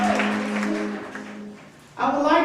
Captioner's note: audience applause